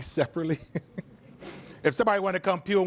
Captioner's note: laughs